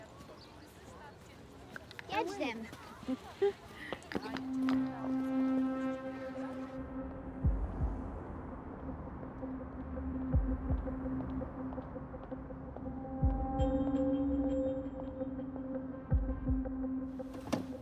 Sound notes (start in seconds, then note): 3.9 Aleks laughing; 5.2 ominous music